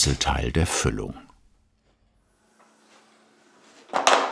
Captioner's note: machine whirring; clattering